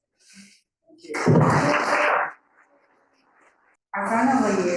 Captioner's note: audience applauding